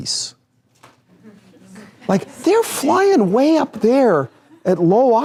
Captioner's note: laughter